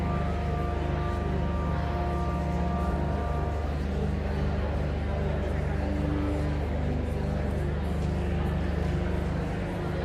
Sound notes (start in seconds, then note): 0.0 enigmatic organ music continues; 4.6 audience chattering continues